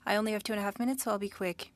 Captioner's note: speaking French